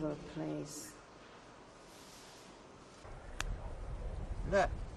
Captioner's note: pauses for 3 seconds